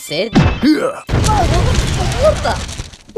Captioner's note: blast sound